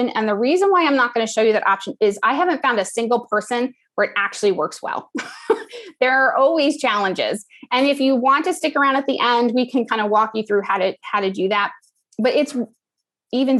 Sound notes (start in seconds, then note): 5.1 laugh